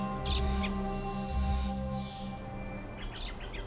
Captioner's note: birds chirping